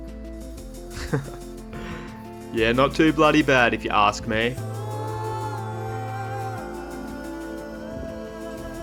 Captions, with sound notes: *Chuckles* Yeah not too bloody bad if you ask me...